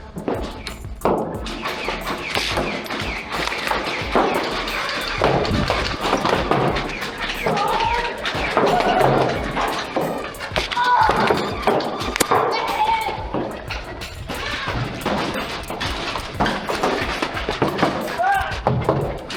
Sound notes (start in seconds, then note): 0.0 clattering; 0.2 motors revving and multiple blasters thunking; 4.8 rapid-fire thunking and footsteps; 8.1 rapid-fire thunking continues; 10.7 pained child yelp; 13.2 motors revving, rapid-fire thunking and footsteps; 19.1 battle sounds continue